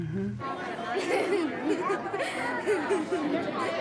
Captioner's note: excited chatter, laughter